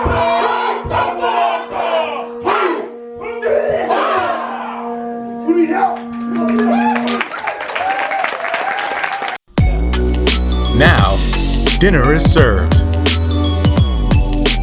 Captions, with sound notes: (audience applauding) (bright upbeat music) Now, dinner is served.